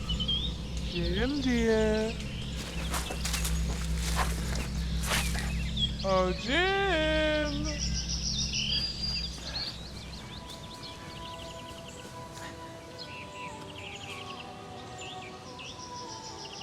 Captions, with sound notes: [deep voice] Jim, dear... Oh, Jim?